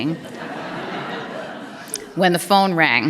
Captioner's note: laughter